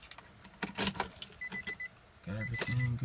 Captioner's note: car beeping